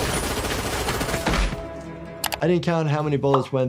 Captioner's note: machine gun firing